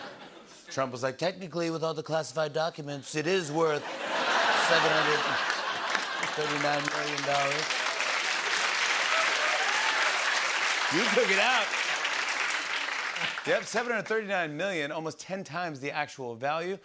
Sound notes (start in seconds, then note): 0.0 laughter; 3.8 laughter and applause